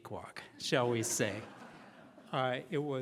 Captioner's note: laughing